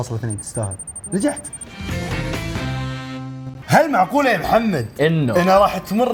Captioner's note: laughs